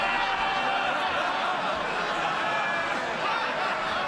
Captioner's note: laughter